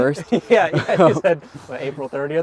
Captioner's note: both chuckling